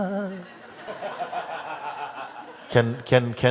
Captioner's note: laughter